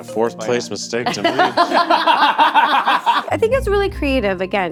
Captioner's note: all laughing